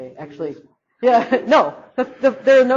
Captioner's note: laughs